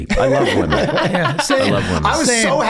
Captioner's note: gang laughing